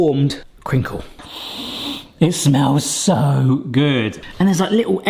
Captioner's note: sniffs